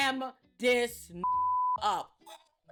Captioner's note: beep